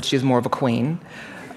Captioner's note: laughter